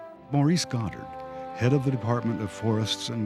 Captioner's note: voiceover